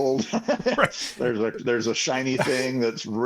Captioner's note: laughing